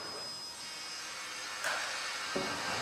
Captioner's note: engine roaring